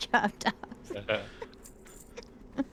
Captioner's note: laughing